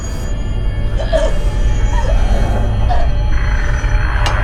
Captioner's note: intense music; Shelby choking